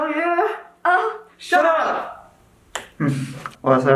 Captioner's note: grunts